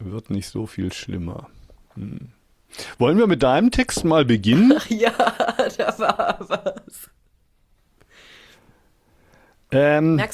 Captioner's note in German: gelächter